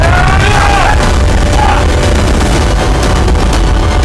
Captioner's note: Martin yelling